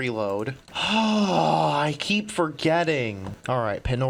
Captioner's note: frustrated sigh